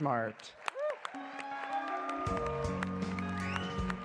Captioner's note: applause